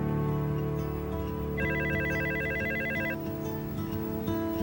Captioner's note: ring